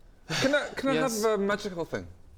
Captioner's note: sigh